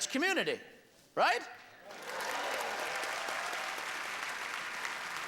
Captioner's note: applause